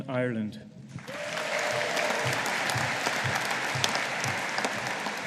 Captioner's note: audience applauding